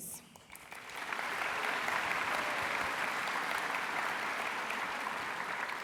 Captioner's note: applause